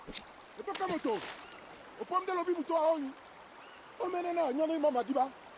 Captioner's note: speaking in foreign language